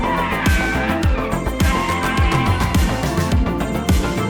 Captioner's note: tires screeching